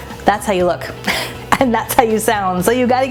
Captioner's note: chuckles